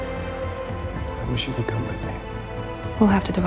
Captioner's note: voiceover